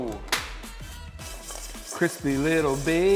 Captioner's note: chicken clattering in aluminum bowl